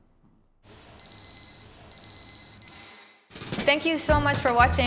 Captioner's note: timer beeping